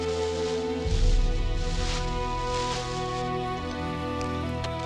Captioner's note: leaves rustling